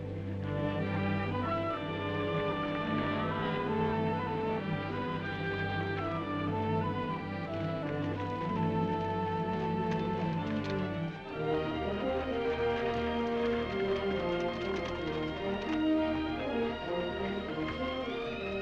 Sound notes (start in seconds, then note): 0.1 gentle upbeat music; 8.2 horse hooves clopping; 11.1 gentle upbeat music; 14.4 horse hooves clopping